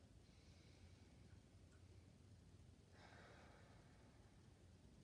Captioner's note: breathing deeply